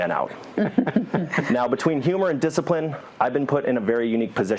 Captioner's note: laugh